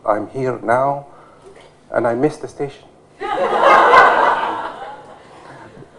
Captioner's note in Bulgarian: смях